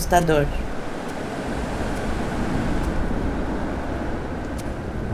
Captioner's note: wind increases